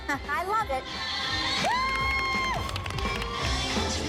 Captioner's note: applause and cheering